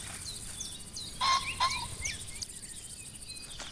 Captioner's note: pheasant caws